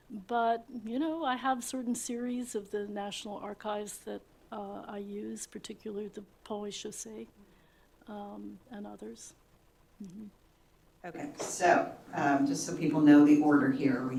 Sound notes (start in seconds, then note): 8.0 french